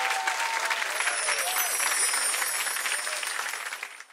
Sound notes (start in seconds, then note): 0.0 audience clapping; 0.8 chimes tinkling